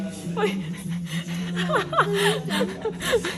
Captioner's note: laughs